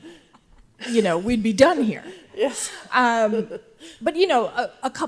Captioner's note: laughs